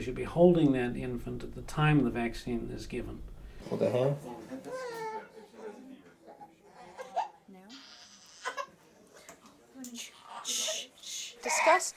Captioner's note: baby crying